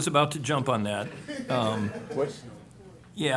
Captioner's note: laughter